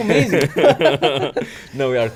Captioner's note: laughs